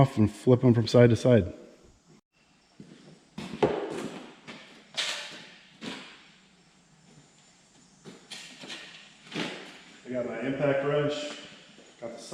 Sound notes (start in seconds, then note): 6.0 impact wrench banging